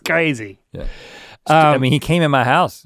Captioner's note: laughing